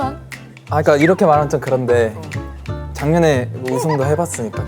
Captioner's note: hesitant